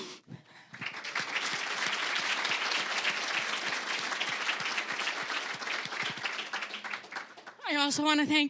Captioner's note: applause